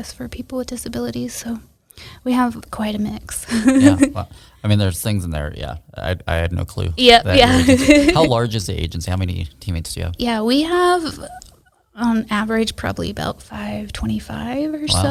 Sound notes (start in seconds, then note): 3.6 laughs; 7.3 laughs